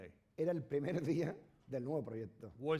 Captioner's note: speaking spanish